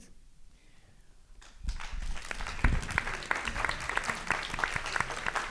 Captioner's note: applause